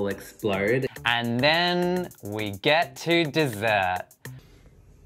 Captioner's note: voiceover